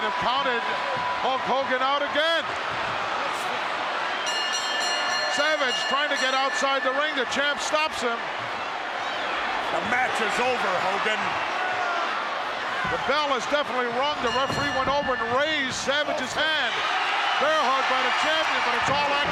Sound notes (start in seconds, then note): 4.2 bell rings